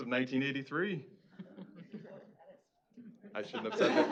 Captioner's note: chuckling